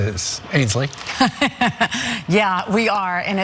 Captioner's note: laugh